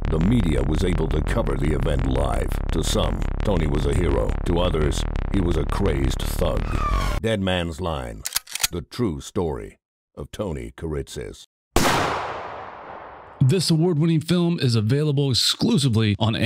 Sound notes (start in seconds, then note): 6.7 whooshing sound; 8.2 sound of gun cocking; 11.7 sound of gunshot